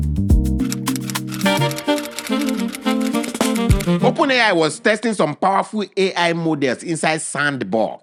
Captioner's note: instrumental music; typing